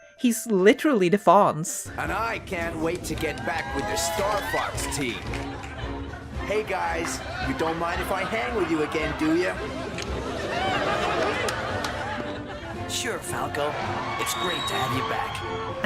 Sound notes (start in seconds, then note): 1.8 crowd cheers; 9.7 crowd laughing; 13.1 crowd cheers